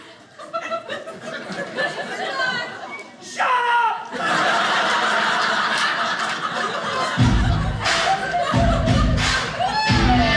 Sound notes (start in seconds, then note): 4.0 audience laughing; 7.1 tough rock music